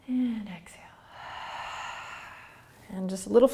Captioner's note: exhaling